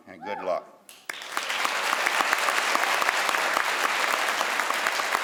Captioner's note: crowd applauds